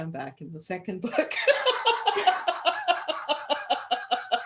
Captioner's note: laughter